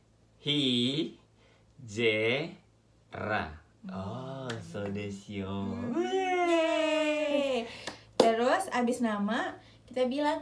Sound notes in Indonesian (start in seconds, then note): 6.6 isyarat tepuk tangan